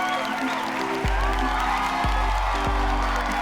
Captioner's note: cheers get louder